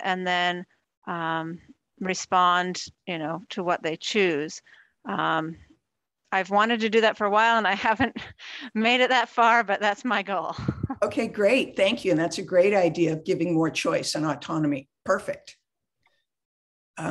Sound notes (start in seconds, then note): 10.6 laughs